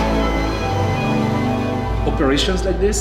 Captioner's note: loading equipment whirring and beeping